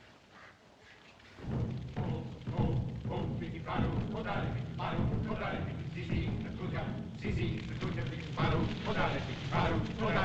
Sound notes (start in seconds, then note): 1.4 drums Beating; 1.8 men Chanting In African Language